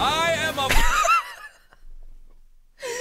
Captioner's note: laughs